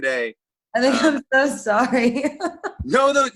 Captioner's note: laughs